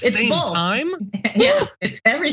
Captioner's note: laugh